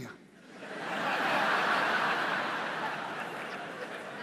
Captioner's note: audience laughs